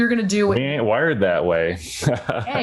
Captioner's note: chuckling